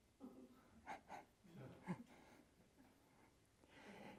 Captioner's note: attendees chuckling